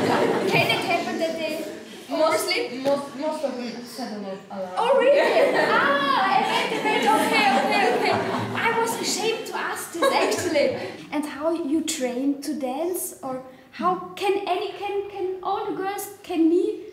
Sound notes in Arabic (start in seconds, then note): 7.8 ضحك